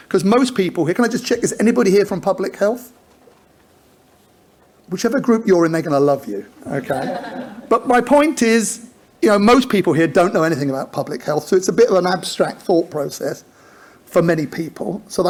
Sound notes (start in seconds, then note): 6.7 audience laughs